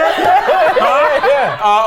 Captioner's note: all laughing